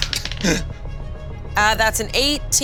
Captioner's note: die rolling